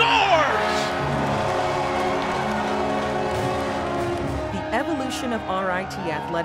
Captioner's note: cheering and Horn